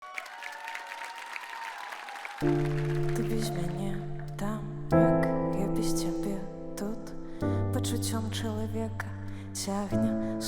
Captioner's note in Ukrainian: оплески